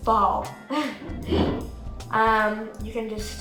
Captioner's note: chuckling